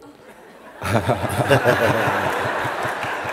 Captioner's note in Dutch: gelach